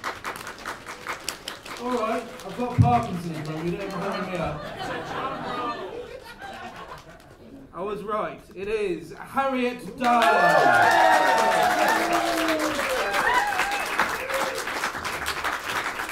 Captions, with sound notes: [ APPLAUSE ] All right, I've got Parkinson's, remember, you can't hurry me up! I was right, it is: Harriet Dyer! [ CHEERING AND APPLAUSE ]